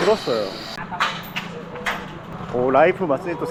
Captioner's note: construction sounds everywhere